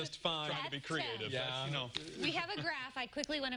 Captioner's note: laughter